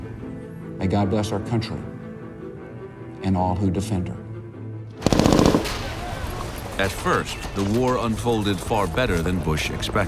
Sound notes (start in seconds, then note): 5.0 machine gun firing